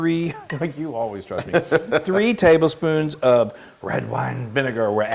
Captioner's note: laugh